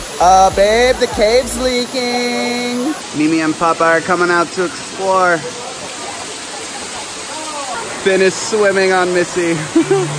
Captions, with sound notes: Uh, babe? The cave's leaking. Mimi and Papa are comin' out to explore. (water gushing) Finn is swimming on Missy.